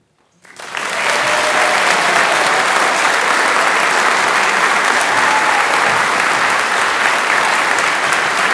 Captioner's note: applause